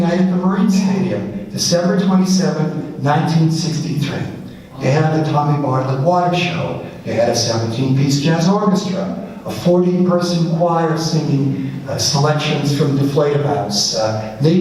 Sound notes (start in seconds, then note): none